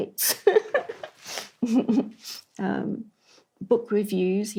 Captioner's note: laughs